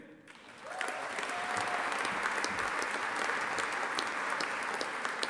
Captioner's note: audience applauding and cheering